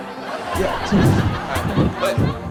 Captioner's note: audience laughing